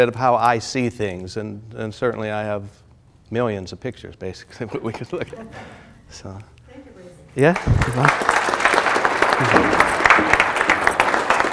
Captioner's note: applause